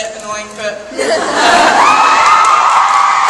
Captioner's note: audience cheers